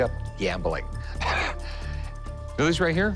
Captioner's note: chuckles